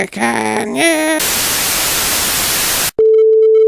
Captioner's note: static